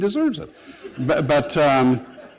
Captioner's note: laughter